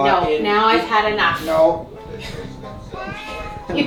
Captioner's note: laughing; cat meows